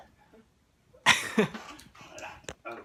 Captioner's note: giggling